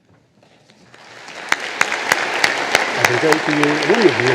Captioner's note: audience applauding